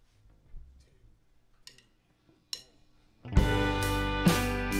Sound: tic, tic of drumsticks

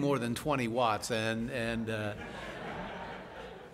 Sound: laughing

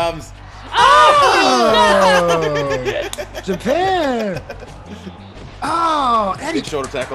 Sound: laugh

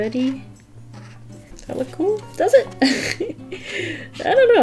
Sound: laughs

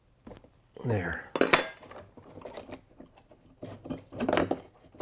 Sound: pry tool clanks

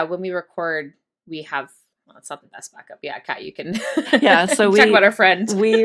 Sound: laughs

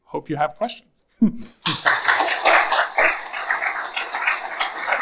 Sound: all clapping

